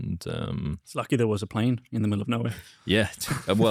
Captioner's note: laughs